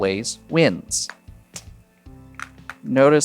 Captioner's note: chips clattering